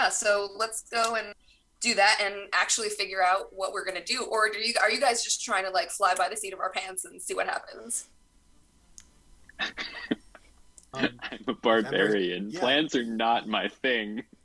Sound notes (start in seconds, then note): 10.9 chuckles